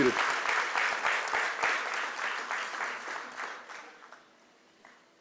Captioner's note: applause